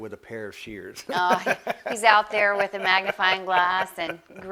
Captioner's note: laughs